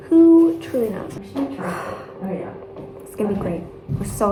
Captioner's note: sigh